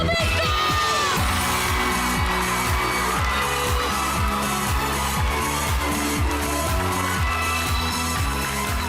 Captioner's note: theme music playing; audience cheering; applause